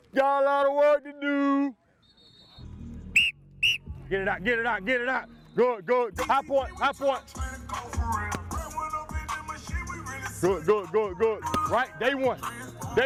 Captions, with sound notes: Got a lot of work to do. (whistle blowing) Get it out, get it out, get it out. Go go. High point, high point. (rap music) Good good good good. Right, day one.